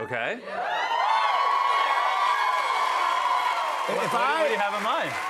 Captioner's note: cheers and applause